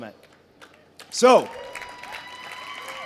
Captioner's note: crowd cheers